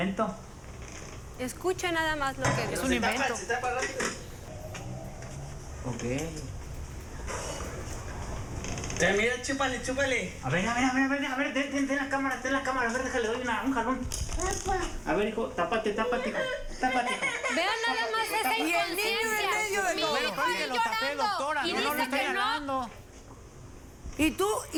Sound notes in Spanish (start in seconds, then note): 16.1 Llanto de bebé; 21.0 Hablan al unísono